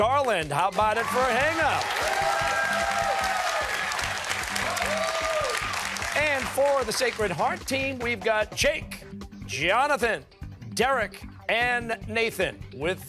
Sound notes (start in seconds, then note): 0.7 cheers and applause